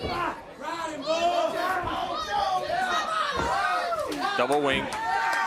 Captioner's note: crowd chatter